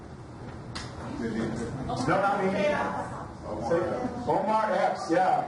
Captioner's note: overlapping chatter